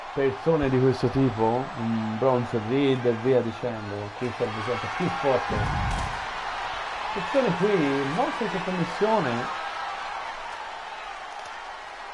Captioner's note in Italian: Applauso